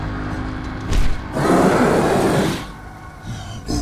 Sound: roars

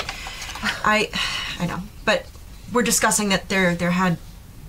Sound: sighs

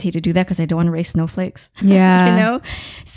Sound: laughing

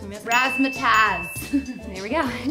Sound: laughs

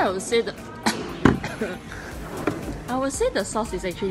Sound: chokes

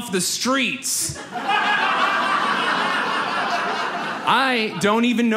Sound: audience laughs

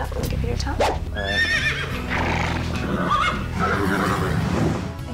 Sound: horse neighs

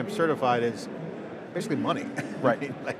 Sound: chuckling

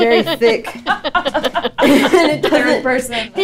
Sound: all laughing

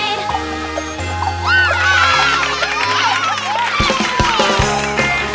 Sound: cheering

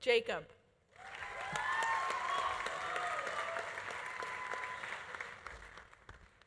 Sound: audience applauding; audience cheering

